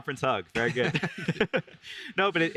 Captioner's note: both laugh